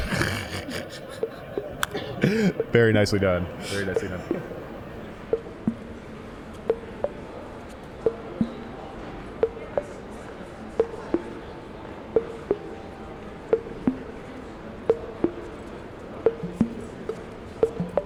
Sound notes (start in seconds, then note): 0.0 snickering; 5.4 chill ambient synth music; 5.4 general chatter